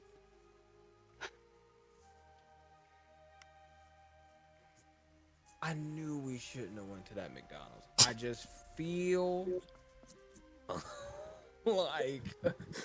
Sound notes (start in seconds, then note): 0.1 silence; 8.1 snorts